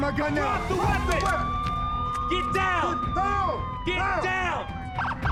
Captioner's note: police sirens wailing